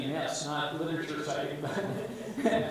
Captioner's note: laughs